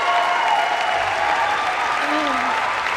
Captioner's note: cheering